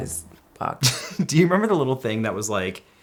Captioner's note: chuckles